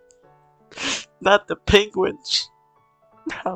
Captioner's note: sniffles